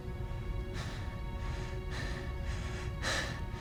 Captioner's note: continues heavy breathing